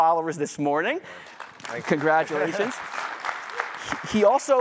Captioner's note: applause